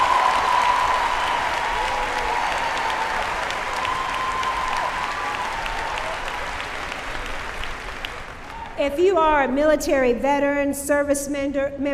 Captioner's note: cheering